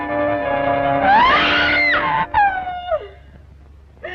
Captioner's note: screams